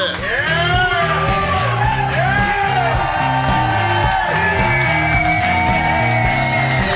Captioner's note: crowd cheering; upbeat music